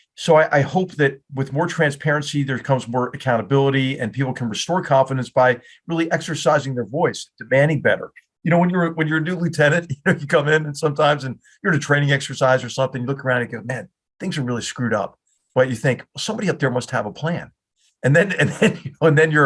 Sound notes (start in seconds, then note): 9.6 laugh